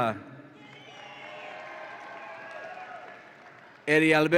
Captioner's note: audience applauds and cheers